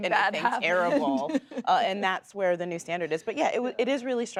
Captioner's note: laughs